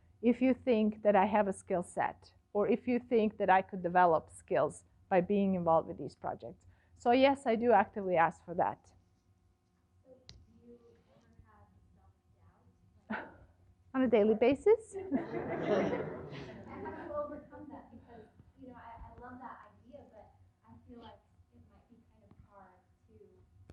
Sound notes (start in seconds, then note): 13.1 laughs; 14.9 laughter